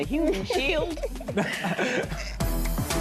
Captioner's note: laughs